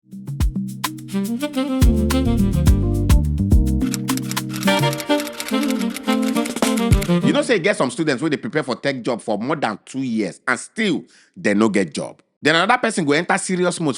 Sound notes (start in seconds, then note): 0.1 instrumental music; 6.9 typing